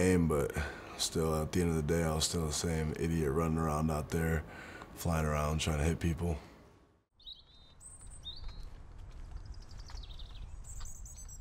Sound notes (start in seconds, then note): 7.0 birds chirping